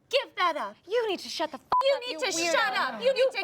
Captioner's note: beep